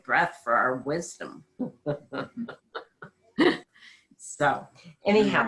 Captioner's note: laughing